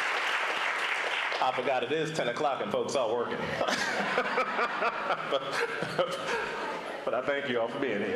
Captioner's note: applause